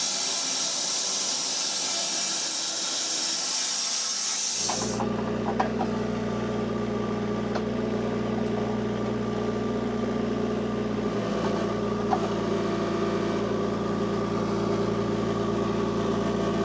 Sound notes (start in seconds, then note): 5.0 motor whirring